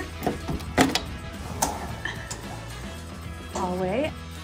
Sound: door opening

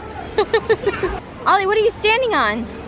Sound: laughs

